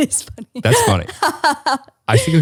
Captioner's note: laughs